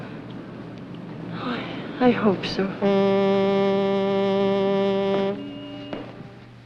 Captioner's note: boat Whistle Blows In Distance